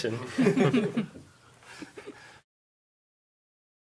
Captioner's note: panelists chuckling